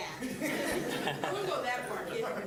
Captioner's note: all laughing